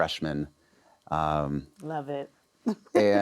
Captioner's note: laughs